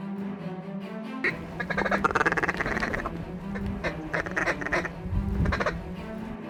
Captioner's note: duck calls